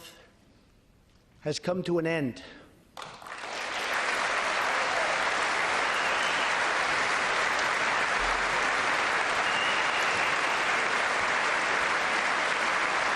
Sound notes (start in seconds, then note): 8.6 applause